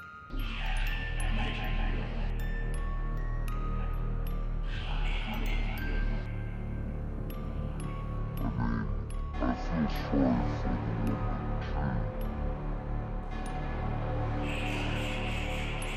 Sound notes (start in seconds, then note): 1.0 eerie whispering; 14.4 eerie whispering